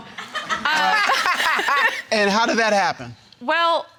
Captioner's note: laughing